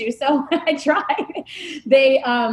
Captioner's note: laughing